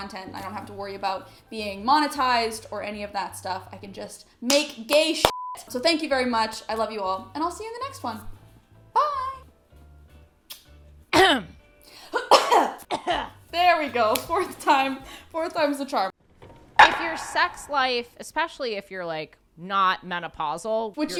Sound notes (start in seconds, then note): 11.1 clears throat; 12.1 coughs